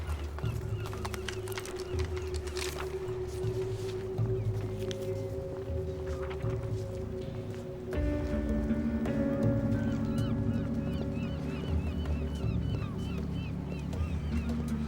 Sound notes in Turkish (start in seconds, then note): 0.7 Martı sesleri; 4.4 Müzik - Gerilim